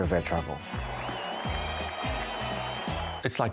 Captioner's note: crowd cheering